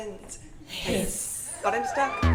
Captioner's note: hiss